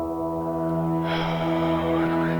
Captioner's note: sigh